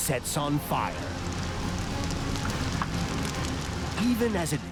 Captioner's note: fire crackling